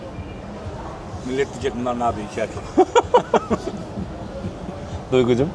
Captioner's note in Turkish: kahkaha